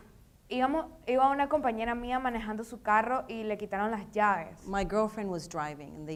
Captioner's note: speaking in foreign language